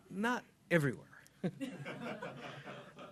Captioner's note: laughter